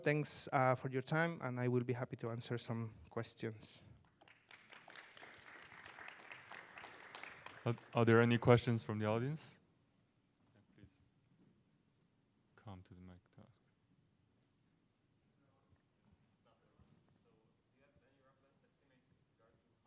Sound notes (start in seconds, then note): 4.0 applause